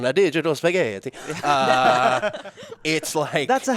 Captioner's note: all laughing